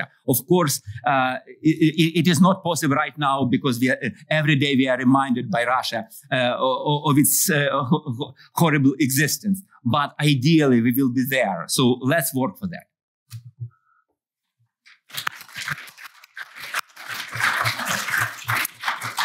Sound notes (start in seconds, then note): 14.6 applause